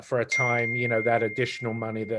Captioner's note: beeping